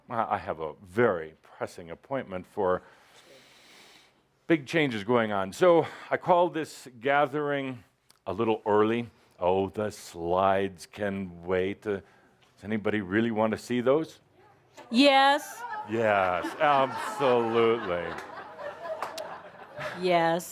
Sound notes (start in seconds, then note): 14.8 a few responses from the audience; 20.3 laughter